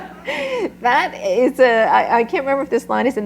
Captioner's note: laughter